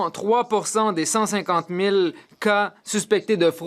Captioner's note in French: voix de l'interprète